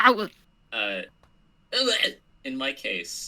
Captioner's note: mimics the strange noise